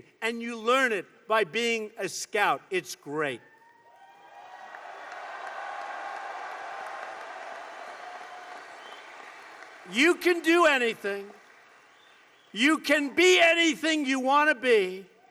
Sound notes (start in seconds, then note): 4.0 applause